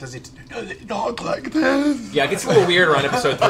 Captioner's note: Clarota voice